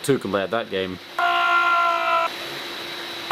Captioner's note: projector buzzing; yells